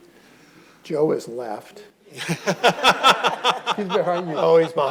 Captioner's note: audience laughing